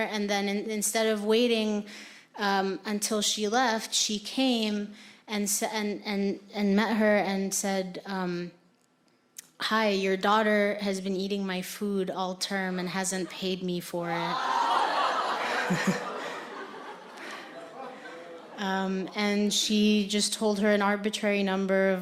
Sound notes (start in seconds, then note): 14.2 audience laughing; 14.4 audience gasping